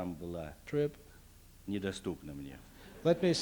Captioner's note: non-english speech